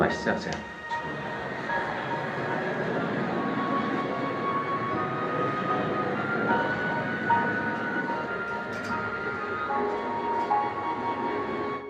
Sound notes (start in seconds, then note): 0.8 fire roaring; 1.4 gentle music continues